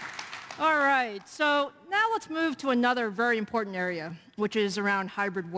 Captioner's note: applause